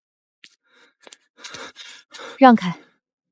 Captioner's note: gasp